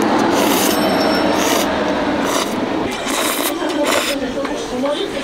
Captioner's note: slurping